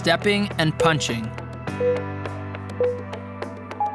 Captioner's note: timer beeping